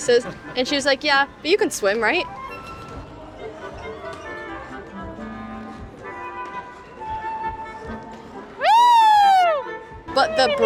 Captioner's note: screaming